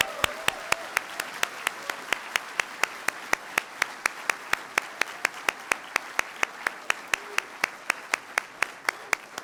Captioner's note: cheering & Applause